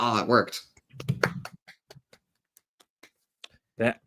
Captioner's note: claps